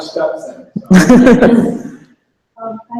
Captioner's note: laughter